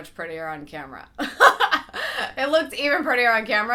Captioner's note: laughs